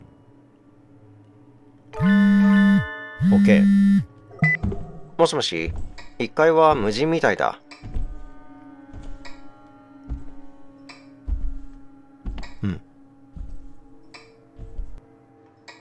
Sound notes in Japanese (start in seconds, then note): 3.2 📲 着信音：ブー！ブー！; 4.4 通話ボタン音：ピッ; 5.6 足音：ﾄﾝ…ﾄﾝ…